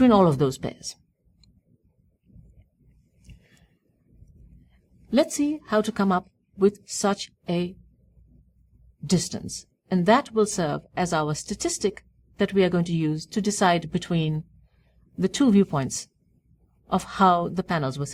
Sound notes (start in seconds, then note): 3.0 pause